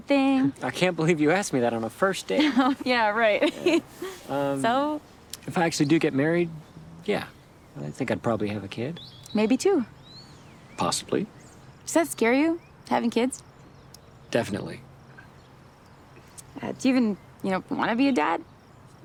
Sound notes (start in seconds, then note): 2.3 Zoe laughs; 3.2 laughs